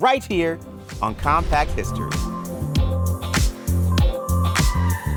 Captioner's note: graphic hums